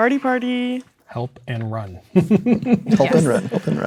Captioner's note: chuckles